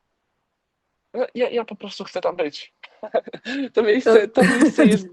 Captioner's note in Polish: śmiech